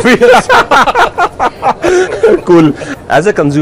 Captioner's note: everybody laughs